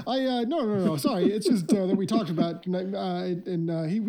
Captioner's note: suppressed chuckling